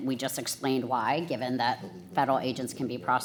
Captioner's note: whispering